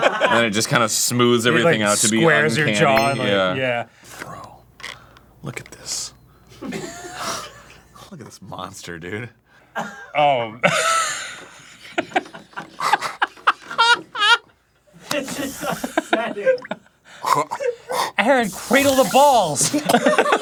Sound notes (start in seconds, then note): 3.9 whispering; 10.6 laughing; 11.6 gagging on the pickle